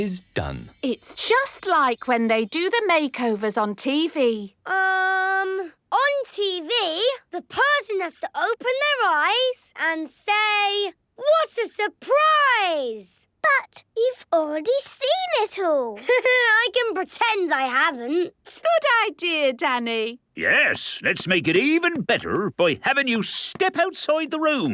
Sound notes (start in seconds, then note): 15.4 Danny laughing